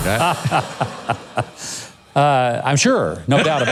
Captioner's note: laughs